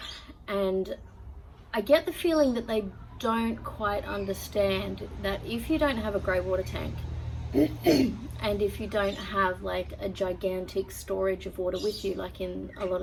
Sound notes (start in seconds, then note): 7.5 clears throat